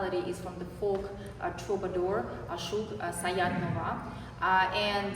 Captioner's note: non-english speech